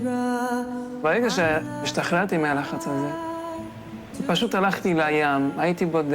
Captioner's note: young man speaking in foreign language